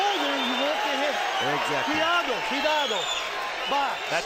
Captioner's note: speaking Spanish